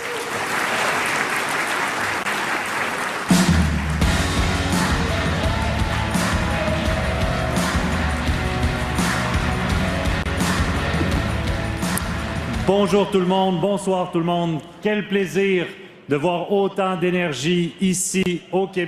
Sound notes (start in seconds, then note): 7.2 applause